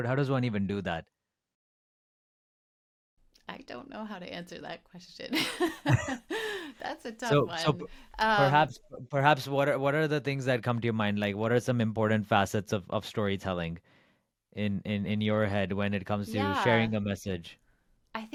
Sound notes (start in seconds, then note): 5.3 laughing